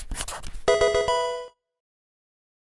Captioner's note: marker scratching; electronic video game chime